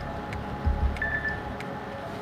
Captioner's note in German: Pieptöne